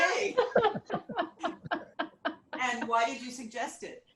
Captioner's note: laughs